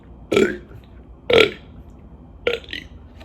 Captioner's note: bUrp